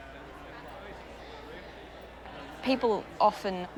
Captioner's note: people chattering